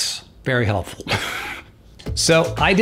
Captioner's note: laughs